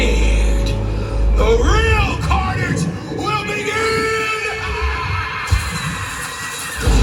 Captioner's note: laughing